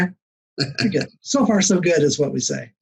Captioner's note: laughs